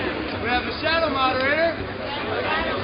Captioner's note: voiceover